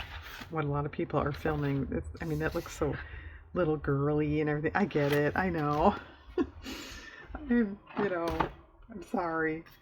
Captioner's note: laughs